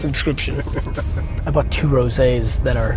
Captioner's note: laughing